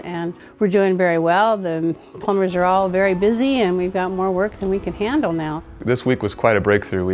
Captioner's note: soft road noise and wind blowing